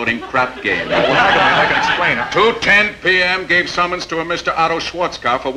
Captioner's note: audience laughing